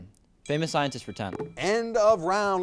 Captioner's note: timer dings